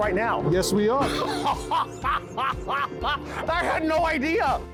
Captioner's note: laughing